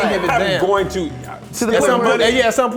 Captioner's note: mutters